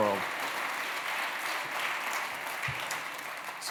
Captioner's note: cheering, applause